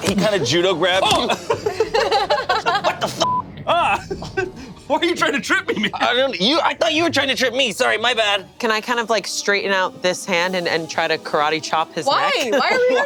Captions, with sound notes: he kind of judo grabbed you. - Oh. (group laughs) - What the (beep)? - Ah. Why are you trying to trip me? - I thought you were trying to trip me. Sorry, my bad. - Can I kind of like straighten out this hand and try to karate chop his neck? - Why?